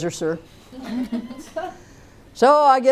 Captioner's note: laughter